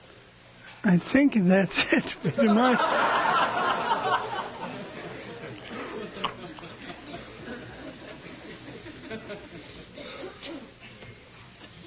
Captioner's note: laughs, laughter